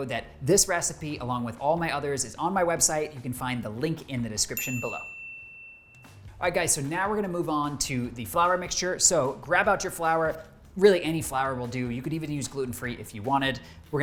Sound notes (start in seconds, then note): 4.5 bell rings